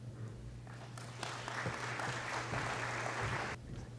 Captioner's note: applause